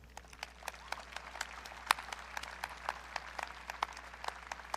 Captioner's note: audience clapping